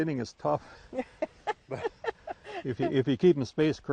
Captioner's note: laughing